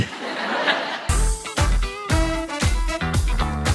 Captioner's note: audience laughing; upbeat music